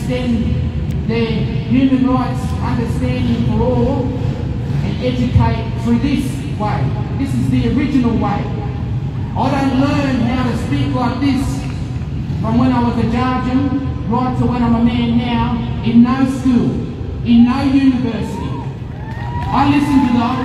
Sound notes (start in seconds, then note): 10.1 applause